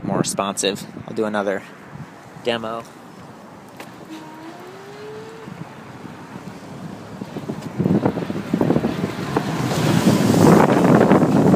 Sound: motor whirring

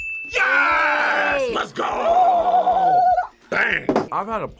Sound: bell rings; trills

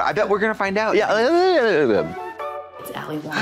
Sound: Katya mutters

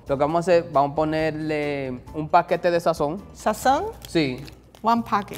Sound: speaking in foreign language

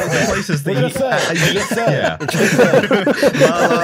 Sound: laughter

